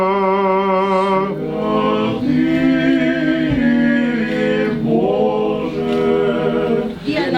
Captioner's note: chant